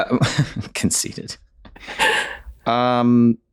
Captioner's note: chuckles